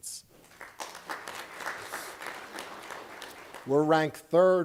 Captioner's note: applause